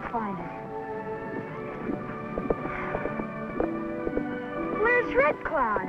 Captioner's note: horse hooves clomping